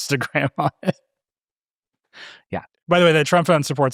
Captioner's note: laughing